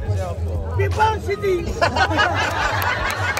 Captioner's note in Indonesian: tertawa